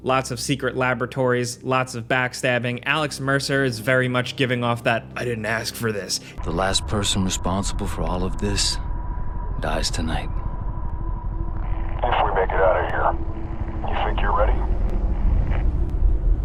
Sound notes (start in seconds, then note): 8.9 suspense music; 13.0 helicopter rumbling